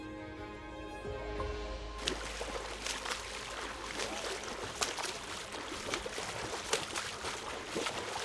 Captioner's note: water rustling